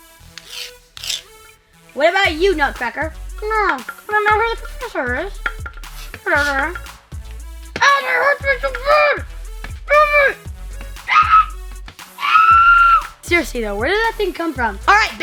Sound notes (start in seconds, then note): 12.2 screaming